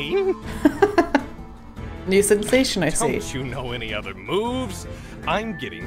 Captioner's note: laughs